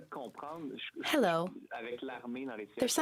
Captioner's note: speaking French